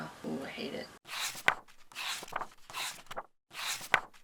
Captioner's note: pages turning